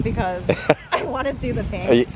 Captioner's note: laughs